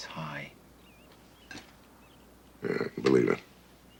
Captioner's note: chuckles